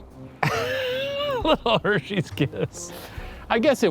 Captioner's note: laughs